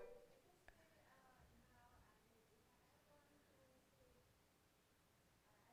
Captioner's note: softly speaking